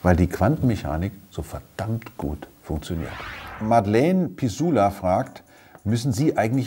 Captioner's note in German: Soundeffekt